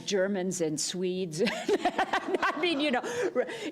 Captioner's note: laughter